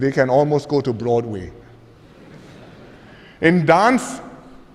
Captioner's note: laughter